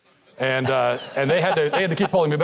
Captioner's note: audience laughs